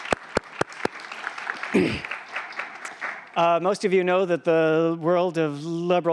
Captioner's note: applause